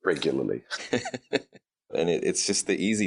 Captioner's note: laughing